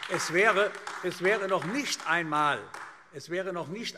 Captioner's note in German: Beifall AfD